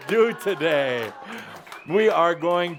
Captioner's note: laughter and applause